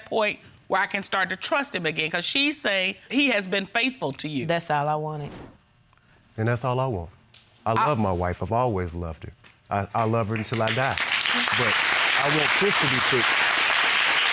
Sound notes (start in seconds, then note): 10.0 audience applauding